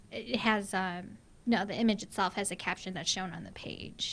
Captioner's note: voiceover